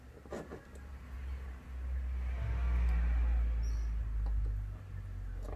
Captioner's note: car whooshing